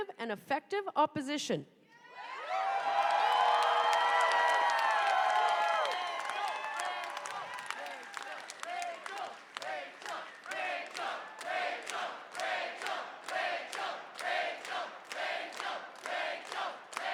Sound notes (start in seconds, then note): 5.0 cheers and applause; 14.1 chanting rachel